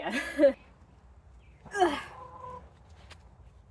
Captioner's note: grunting noises